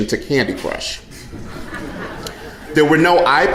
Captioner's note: audience laughing